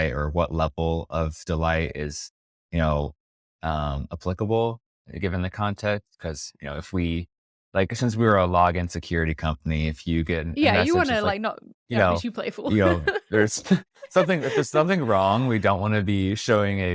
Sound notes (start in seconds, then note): 12.6 laughs